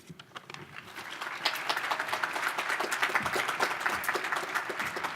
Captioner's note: audience applause